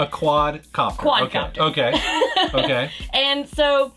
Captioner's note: laughs